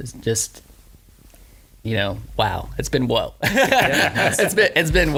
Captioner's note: laughs